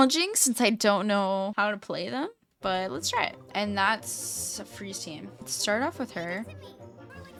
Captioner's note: high pitched